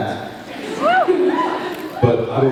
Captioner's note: cheers; laughs